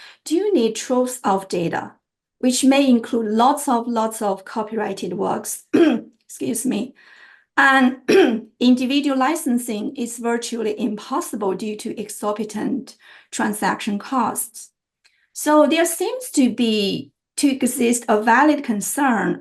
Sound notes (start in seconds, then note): 5.7 clearing throat